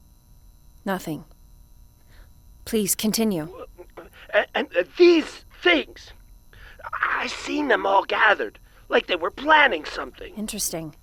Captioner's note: stuttering, bewildered